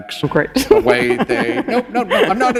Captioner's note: laughter